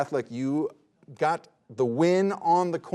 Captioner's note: none